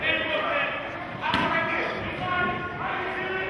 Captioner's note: yelling